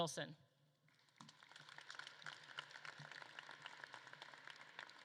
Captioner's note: audience claps